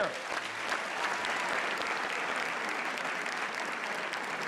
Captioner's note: applause